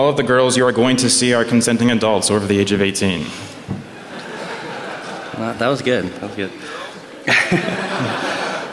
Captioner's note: laughter